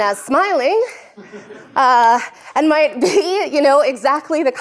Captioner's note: laughter